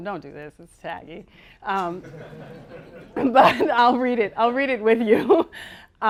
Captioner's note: laughter